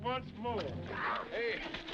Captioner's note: horse hooves clopping